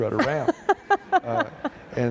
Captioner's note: laughter